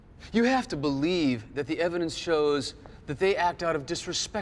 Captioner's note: none